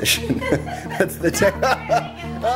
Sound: laughs

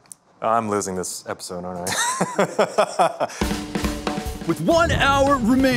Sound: laughs

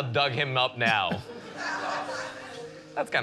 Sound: light laughter

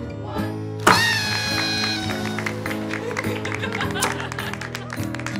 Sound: party horn, laughter, applause

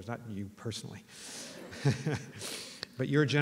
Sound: laughter

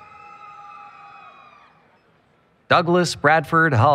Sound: applause, Cheering

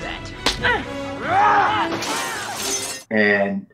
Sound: screaming

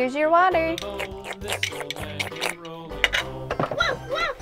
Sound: slurping

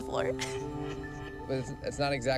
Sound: laughing

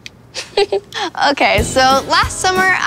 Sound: chuckles

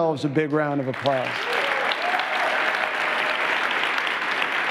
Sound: applause

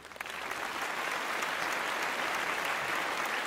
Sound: applause

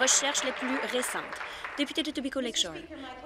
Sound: applause

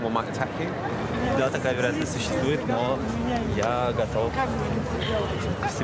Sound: speaking in foreign language

